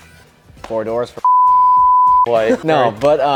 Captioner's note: beep